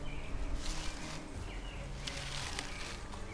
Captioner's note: bushes rustle; suspenseful music